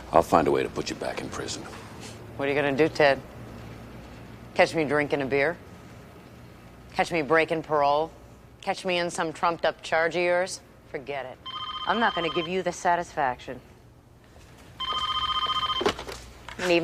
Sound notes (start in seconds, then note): 11.4 phone ringing